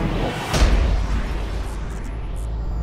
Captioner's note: thud!